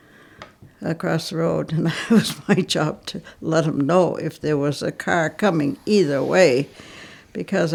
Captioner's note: laughs